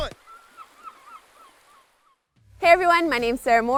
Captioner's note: birds chirping